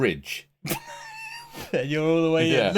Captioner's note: laughing